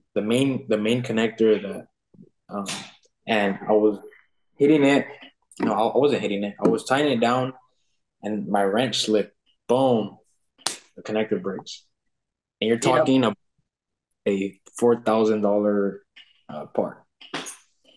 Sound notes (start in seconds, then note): 10.3 palm taps